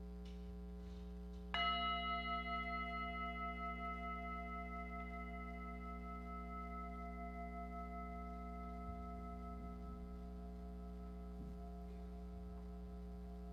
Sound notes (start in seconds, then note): 1.5 singing bell rings